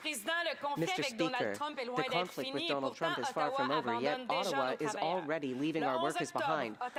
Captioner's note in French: voix de l'interprète